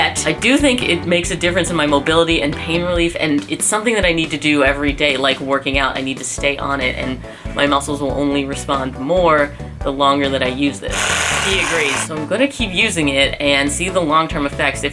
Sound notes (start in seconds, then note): 10.9 whirrrr